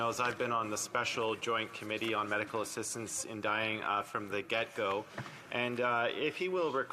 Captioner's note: speaking French